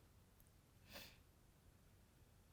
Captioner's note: Rose sniffles again